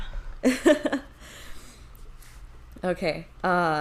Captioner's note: chuckles